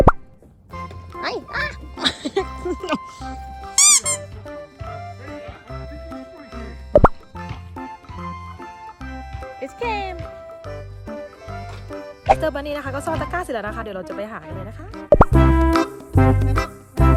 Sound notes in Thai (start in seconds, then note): 1.2 หัวเราะ